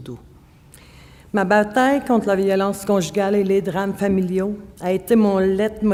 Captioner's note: speaking French